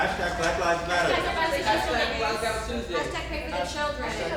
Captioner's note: all murmuring